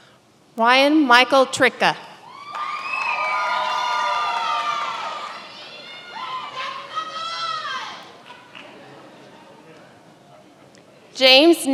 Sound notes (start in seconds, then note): 2.4 many applauding; 8.2 many laughing